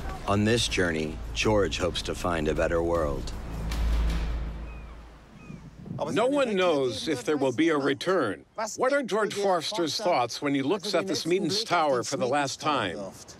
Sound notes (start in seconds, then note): 3.6 seagulls caw